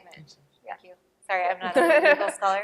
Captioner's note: laughter